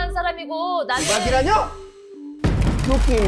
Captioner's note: sound effect: Fired up